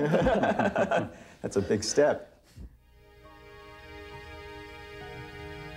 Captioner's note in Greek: Γέλια